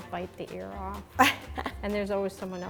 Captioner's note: laughs